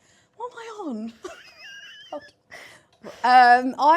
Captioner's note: laughs